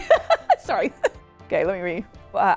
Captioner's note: laughing